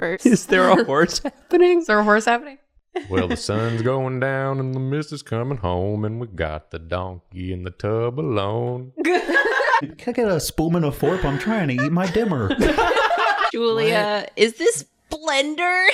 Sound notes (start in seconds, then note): 0.3 laughing; 2.9 giggling; 9.0 laughing; 11.0 giggling; 12.4 laughing